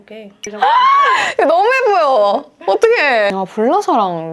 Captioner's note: screams when something is pretty